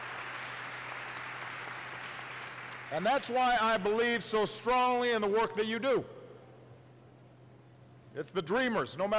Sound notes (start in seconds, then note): 0.0 applause